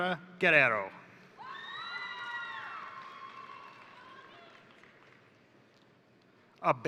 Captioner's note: crowd cheering; crowd applauding